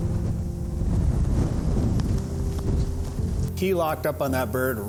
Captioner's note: wind rustling